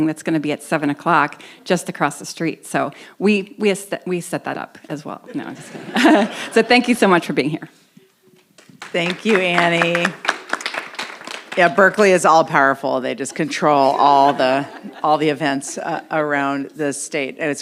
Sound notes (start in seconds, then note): 5.3 audience laughs; 8.5 audience applauds